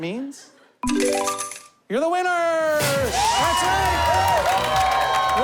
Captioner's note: shouts